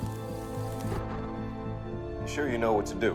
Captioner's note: fire crackling; somber music; thunder rumbling